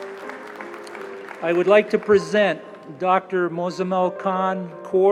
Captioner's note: applause